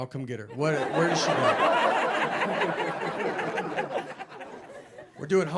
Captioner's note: audience laughing